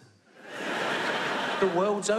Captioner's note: audience laughs